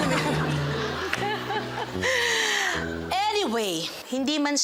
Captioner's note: everyone laughing